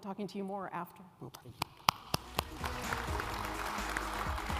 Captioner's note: applause